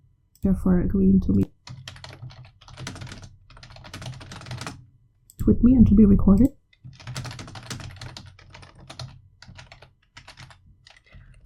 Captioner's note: typing